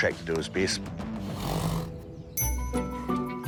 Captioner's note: snorts